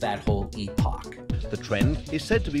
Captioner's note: soundbite of archived recording